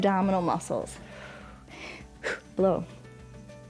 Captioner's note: short exhales